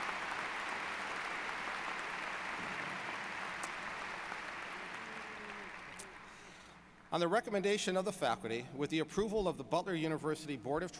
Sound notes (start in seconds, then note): 0.0 applause